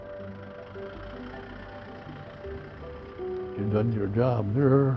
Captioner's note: tractor engine roaring